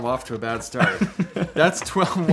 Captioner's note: laughs